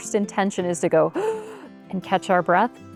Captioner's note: gasping